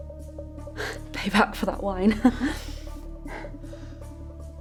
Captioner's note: chuckles